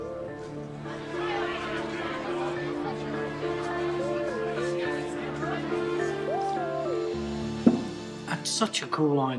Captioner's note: indistinct chatter